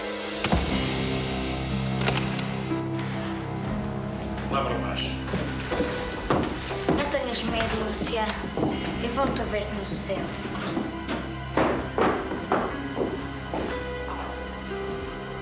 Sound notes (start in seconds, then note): 4.4 speaking portuguese